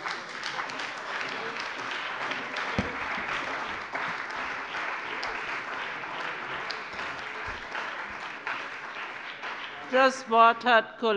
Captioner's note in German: Beifall bei dem BÜNDNIS 90/DIE GRÜNEN und der CDU